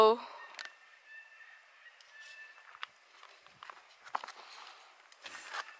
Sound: birds squawking, knife scrapping

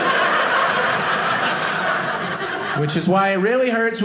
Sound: audience laughing

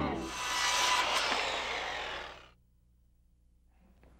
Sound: circular saw buzzing

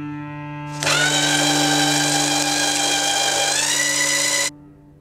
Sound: machine buzzing

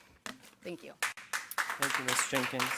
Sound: audience clapping

